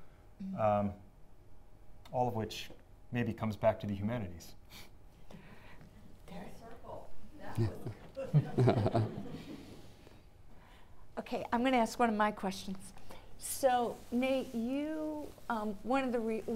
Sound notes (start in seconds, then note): 8.1 audience chuckling